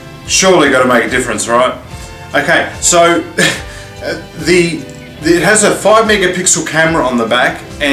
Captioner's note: laughter